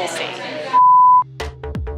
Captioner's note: beep; upbeat music